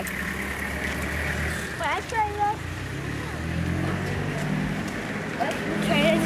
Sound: sounds of running vehicles

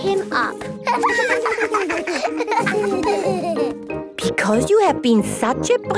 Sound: laughter

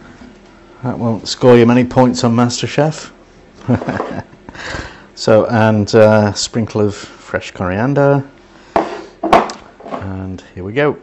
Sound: laughs

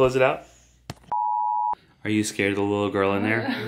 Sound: beep

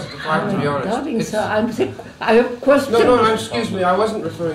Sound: laughs

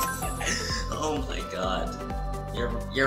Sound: chuckles

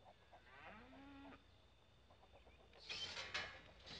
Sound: cow mooing

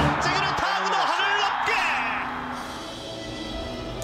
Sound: announcers speaking in foreign language; upbeat music

